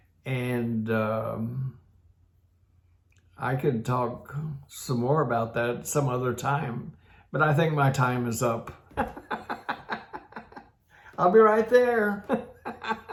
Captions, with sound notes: And I could talk some more about that some other time, but I think my time is up (laughs heartily). I'll be right there.